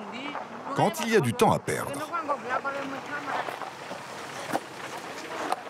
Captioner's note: herero audio spoken